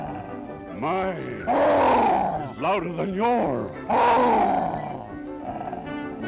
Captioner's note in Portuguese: roarr!